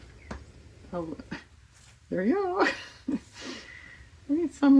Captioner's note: laughs